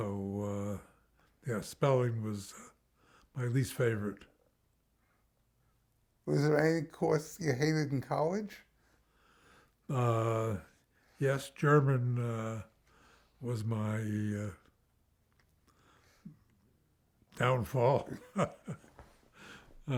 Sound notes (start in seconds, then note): 13.4 laughs